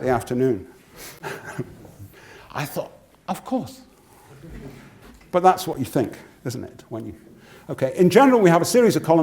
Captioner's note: laugh